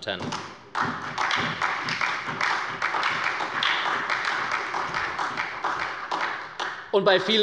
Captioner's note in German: Beifall bei der SPD